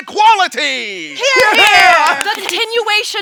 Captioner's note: clapping